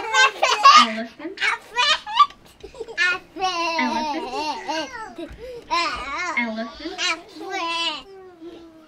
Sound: children chattering; children imitate elephant noise

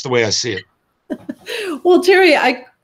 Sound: laughing

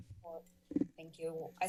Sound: mic thump

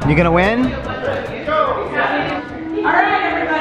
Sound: people chattering

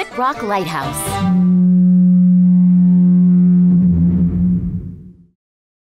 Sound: foghorn

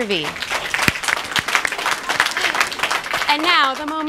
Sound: claps

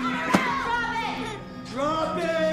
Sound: Sam cries out

